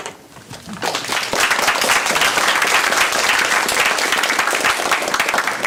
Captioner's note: applause